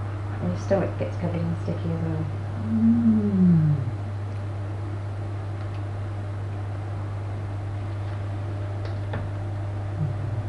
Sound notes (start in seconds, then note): 4.8 sighs